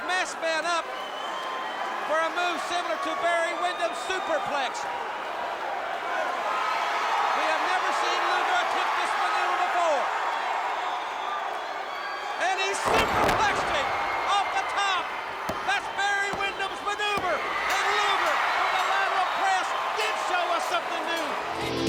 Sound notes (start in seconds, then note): 17.2 bell ringing